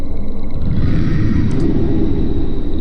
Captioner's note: demonic Voice